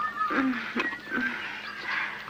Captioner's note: groans